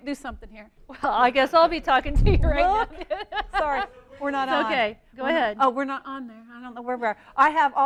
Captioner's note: laughing